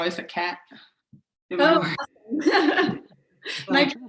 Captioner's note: laughs